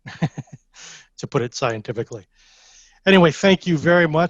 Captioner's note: chuckles